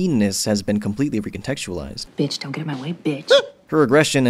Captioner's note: squeaks